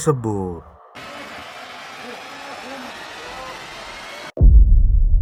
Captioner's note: applause